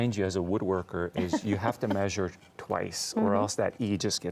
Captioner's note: laughs